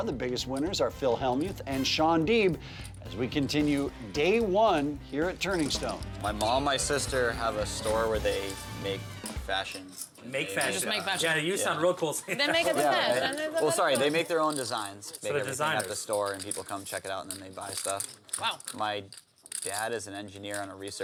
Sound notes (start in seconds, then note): 11.6 laugh